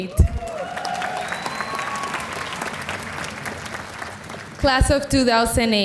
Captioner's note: audience applauding